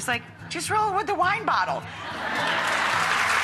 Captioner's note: crowd laughs; crowd applauds